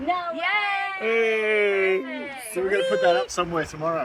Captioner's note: ladies cheering